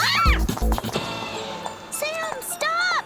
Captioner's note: squeals; delicate music